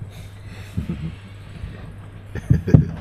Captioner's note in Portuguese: Risos suaves